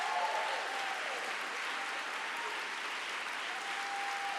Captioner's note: vigorous applause